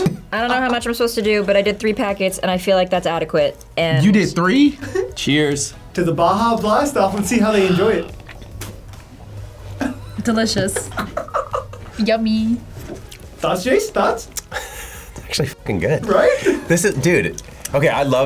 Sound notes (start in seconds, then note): 8.5 spits; 10.7 laughs